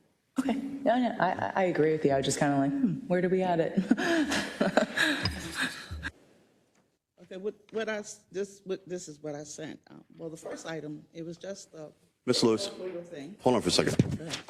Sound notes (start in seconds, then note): 3.8 laugh